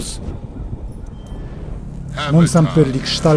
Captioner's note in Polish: klang ôd burze